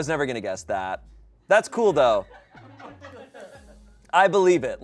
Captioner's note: people laugh